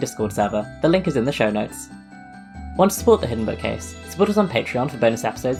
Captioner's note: none